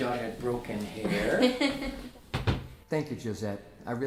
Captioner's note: Josette chuckles